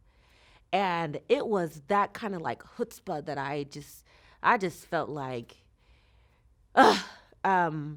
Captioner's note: sighs